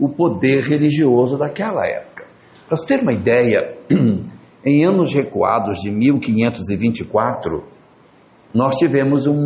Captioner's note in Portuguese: limpando a garganta